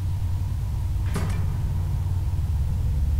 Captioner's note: clank